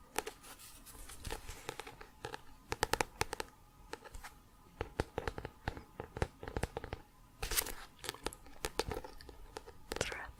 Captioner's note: tapping on both sides of book